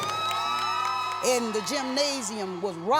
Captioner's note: cheering